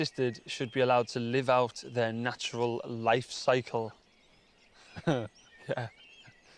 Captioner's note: laughing